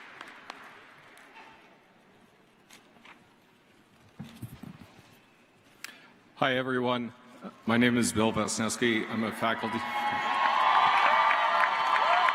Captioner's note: applause